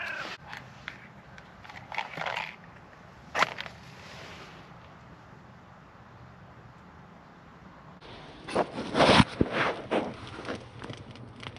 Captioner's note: fire crackling